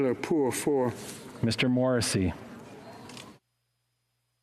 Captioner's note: speaking French